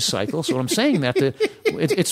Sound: laughter

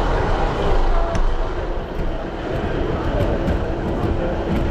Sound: wheelchair moves

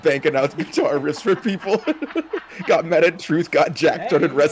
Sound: laugh

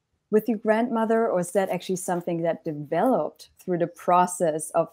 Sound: none

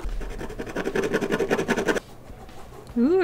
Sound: more scratchy art sounds; scratchy art sounds

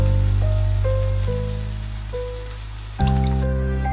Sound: raindrops

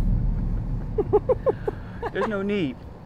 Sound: laughing

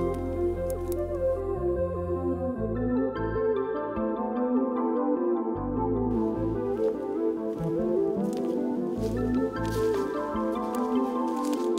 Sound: crunching of leaves

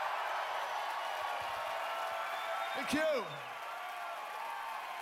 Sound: cheers and applause

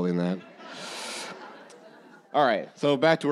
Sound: audience laughing

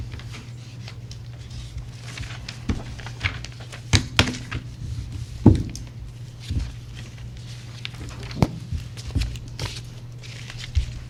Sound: papers shuffling

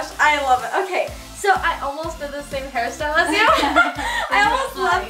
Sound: laughs

